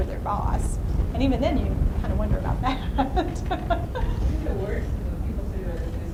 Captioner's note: laughs; voiceover